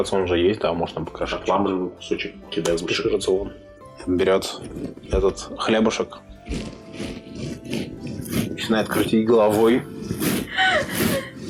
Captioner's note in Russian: звуки раскрутки гусиной головы; звук отправки хлеба в полёт